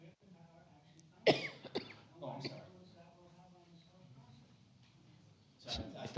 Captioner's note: overlapping chatter